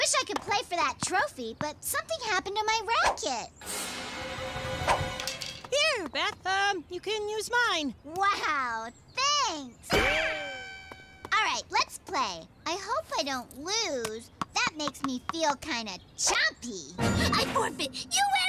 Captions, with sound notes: - Wish I could play for that trophy. But something happened to my racquet. - Here, Beth. Um, you can use mine. - Wow, thanks! - (Running screams) - Alright, let's play! I hope I don't lose, that makes me feel kinda chompy.